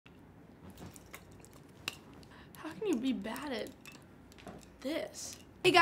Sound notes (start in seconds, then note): 2.8 yo-yo clicks